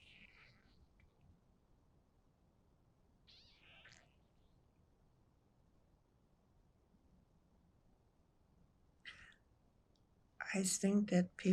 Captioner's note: pauses 10 seconds